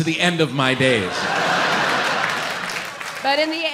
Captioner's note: audience laughs